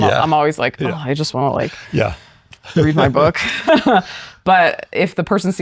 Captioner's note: laughs